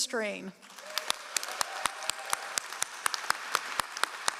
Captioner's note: all applauding